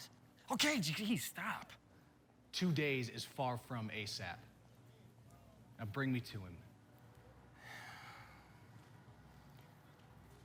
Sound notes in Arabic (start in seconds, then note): 7.2 تتنهد